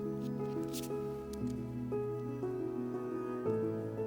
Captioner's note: paper rustles